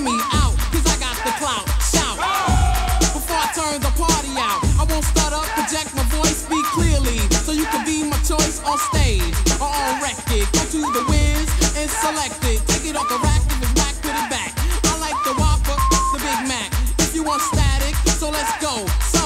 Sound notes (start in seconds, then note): 2.0 crowd shouting; 14.7 beep